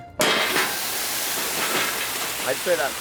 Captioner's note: seafood sizzling